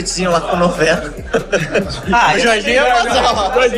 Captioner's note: laughter